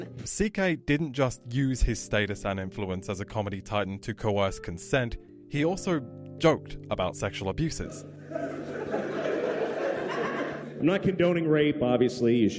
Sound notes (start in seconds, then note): 7.8 crowd laughting